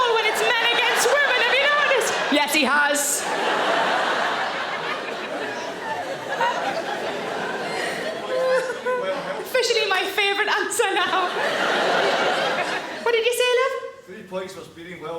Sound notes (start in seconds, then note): 3.2 audience laughing; 6.5 Sarah laughs; 11.4 audience laughing